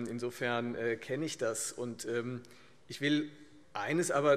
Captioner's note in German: none